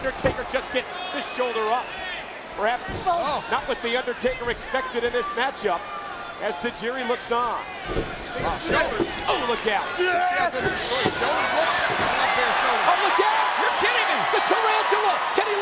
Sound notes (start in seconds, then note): 10.7 crowd chattering